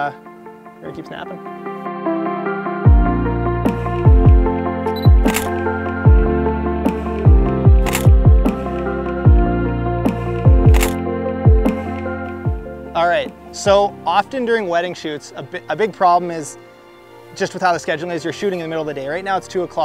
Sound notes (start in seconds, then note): 2.7 upbeat music; 4.9 camera beep and shutter click; 8.0 click